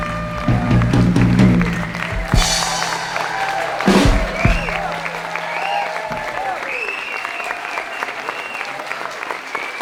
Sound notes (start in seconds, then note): 1.3 crowd cheering